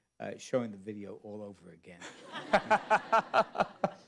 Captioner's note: laughter